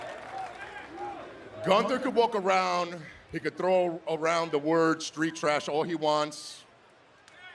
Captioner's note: crowd chanting